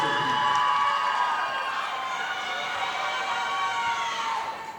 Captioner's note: audience applauding